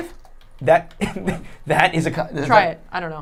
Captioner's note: laughing